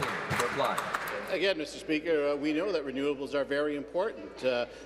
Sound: applause

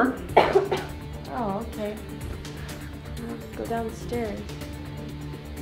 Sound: coughs

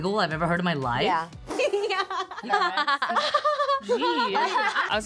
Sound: Stephanie giggling

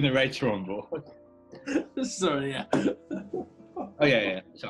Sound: laughing

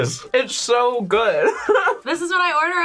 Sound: laughs

